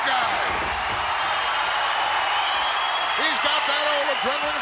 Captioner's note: audience cheering